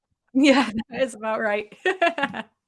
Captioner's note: laughter